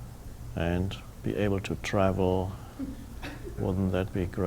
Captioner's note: audience chuckling